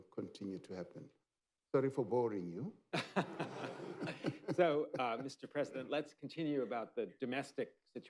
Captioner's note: laughter